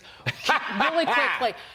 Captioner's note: laughter